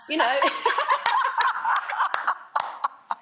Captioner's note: laughing